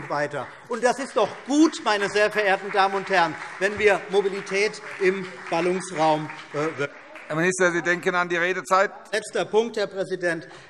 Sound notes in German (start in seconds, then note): 6.5 Beifall BÜNDNIS 90/DIE GRÜNEN und vereinzelt CDU